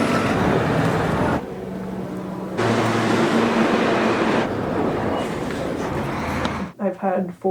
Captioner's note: subway noises; traffic noises